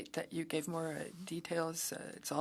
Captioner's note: speaking French